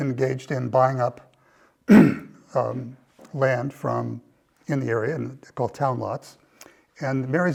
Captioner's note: cough